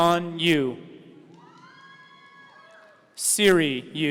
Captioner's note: audience cheering